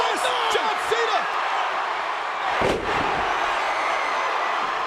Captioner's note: audience cheering